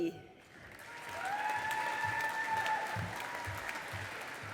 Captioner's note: audience applauding